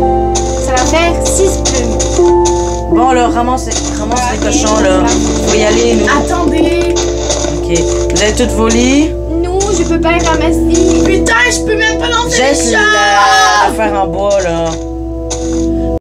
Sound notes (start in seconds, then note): 13.1 cries bloody murder